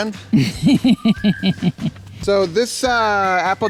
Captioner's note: camera operator laughs